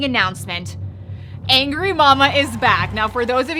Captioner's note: audience cheering